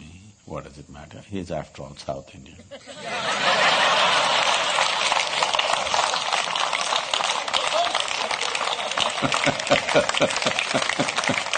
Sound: laughter/Applause

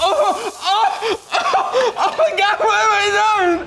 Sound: crying

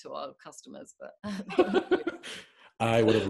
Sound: both laughing

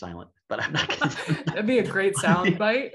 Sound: laughs; both laugh

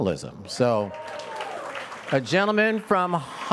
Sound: audience cheers and applauds

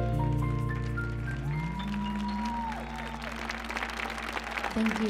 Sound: audience cheering

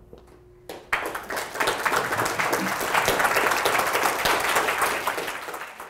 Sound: audience Clapping

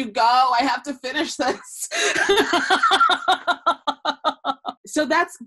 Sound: laughing

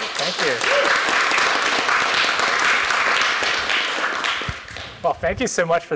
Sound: applause

